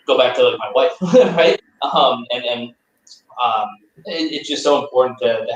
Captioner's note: laughter